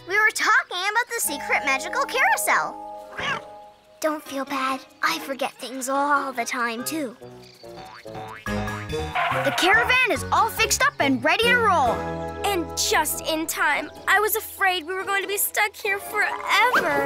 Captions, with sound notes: - We were talking about the secret magical carousel. (Cat meows) Don't feel bad. I forget things all the time, too. (playful music) - The caravan is all fixed up and ready to roll. - And just in time. I was afraid we were going to be stuck here forever.